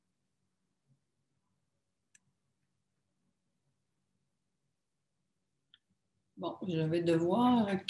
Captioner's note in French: silence